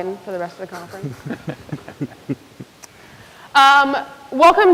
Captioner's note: people chuckle